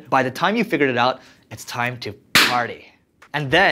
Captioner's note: loud popping noise